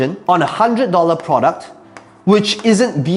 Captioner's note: tapping marker